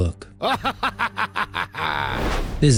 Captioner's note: evil laughter